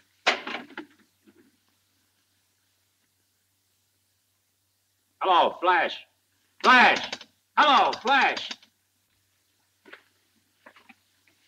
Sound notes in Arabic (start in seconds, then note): 6.6 نقرة على الهاتف